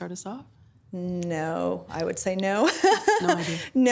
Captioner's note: laughing